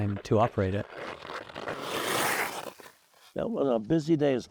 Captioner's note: skate blades carving ice